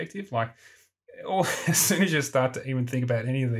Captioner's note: laughs